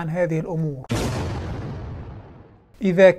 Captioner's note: sound effect